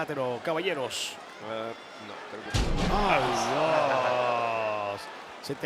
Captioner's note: applause